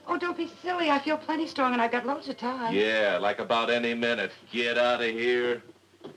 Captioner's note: none